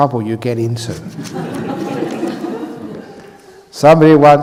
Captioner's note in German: das Publikum lacht